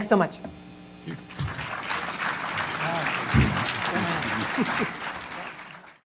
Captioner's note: applause